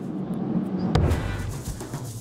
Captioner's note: upbeat music; thud sound